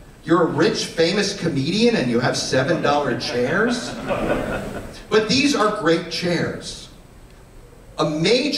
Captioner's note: laughter